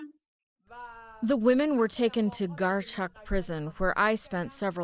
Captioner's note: through translator